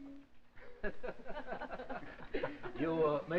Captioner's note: laughter